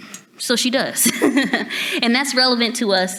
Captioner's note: laughs